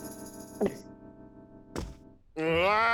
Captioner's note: gulp; continues muttering